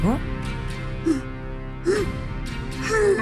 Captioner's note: relieved sobbing